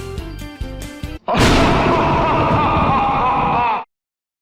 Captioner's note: maniacal laugh; thunder